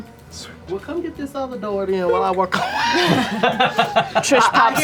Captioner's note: laughter